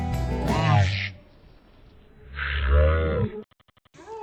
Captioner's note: tape slowed down